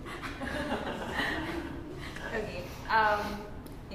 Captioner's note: laughs